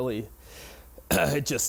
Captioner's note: clearing throat